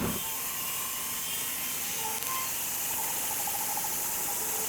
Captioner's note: electric saw screeching